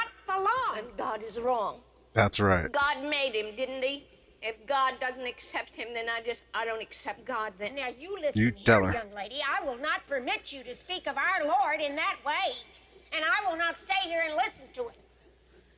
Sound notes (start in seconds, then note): none